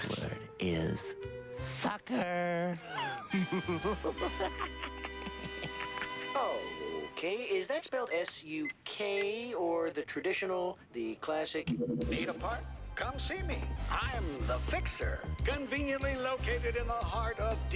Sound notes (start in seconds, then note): 4.2 laughs